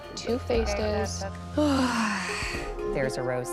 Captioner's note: sighs deeply